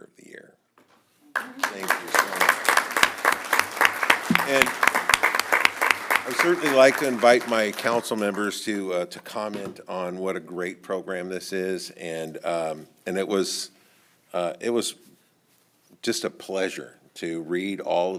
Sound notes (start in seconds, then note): 9.3 applause